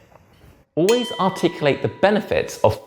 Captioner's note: bell dings